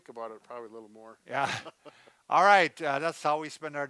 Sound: laughs softly

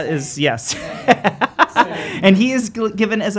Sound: laughing

